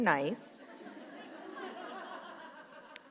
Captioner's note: laughter